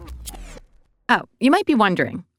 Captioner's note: record scratch